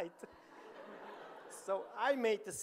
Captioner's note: audience laughing